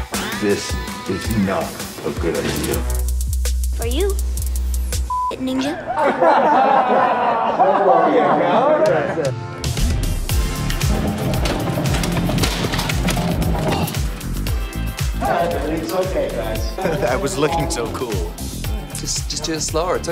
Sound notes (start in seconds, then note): 5.8 laughter; 8.4 upbeat music; 12.1 crash